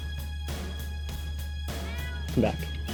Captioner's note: meow!